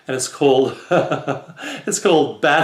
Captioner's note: laugh